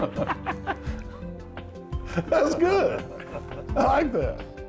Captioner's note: laughing